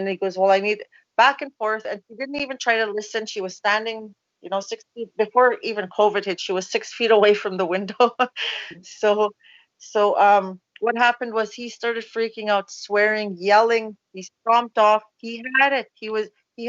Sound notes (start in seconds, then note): 9.5 laughs